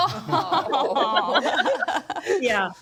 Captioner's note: group laughs